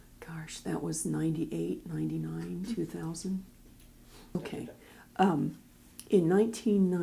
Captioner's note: background talking